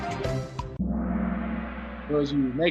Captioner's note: gong